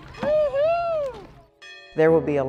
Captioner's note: cheering